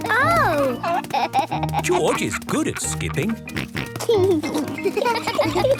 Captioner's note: snort